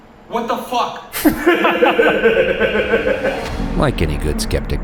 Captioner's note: laughing